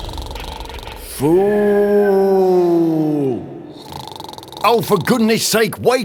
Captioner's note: fool carries on snoring; fool still snoring